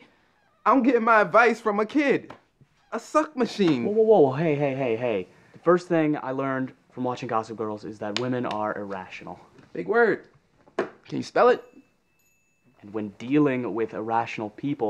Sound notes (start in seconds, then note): 11.4 door opens